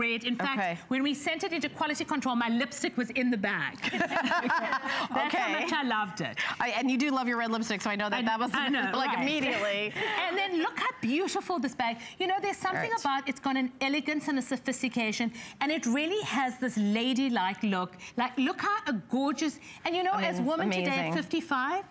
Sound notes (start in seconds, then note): 3.8 laughter